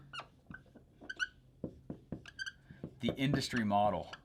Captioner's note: marker squeaking